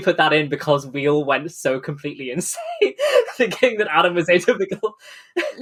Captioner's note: laughing